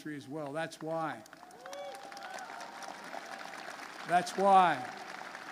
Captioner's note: applause